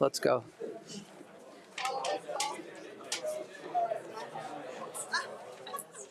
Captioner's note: attendees speaking faintly and laughing